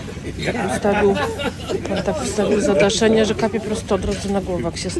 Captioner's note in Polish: śmiech